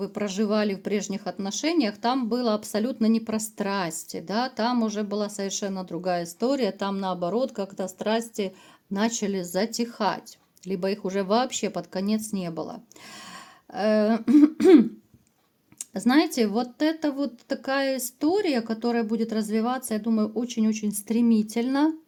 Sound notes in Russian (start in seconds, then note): 14.2 откашливается